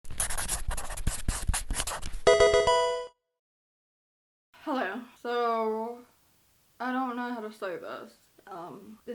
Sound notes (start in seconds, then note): 0.1 marker scratching; 2.3 electronic video game chime